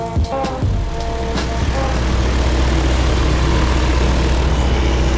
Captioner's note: airplane engine roars